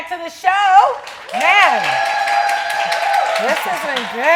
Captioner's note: audience applauds